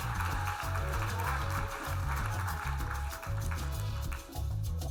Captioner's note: audience applauding